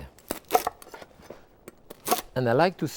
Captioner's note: knife slicing